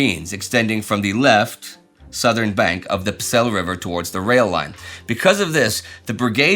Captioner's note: southern